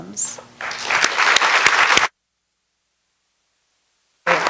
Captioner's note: applause